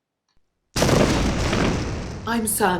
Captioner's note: explosion